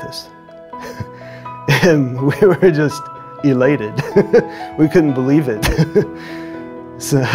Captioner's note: chuckles